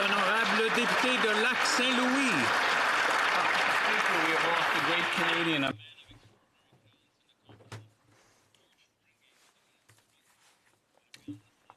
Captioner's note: applause